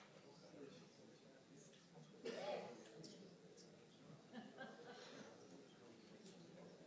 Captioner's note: audience noise continues